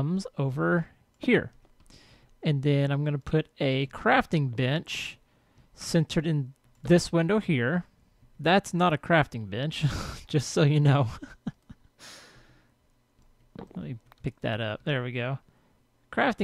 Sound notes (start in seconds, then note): 11.1 laughs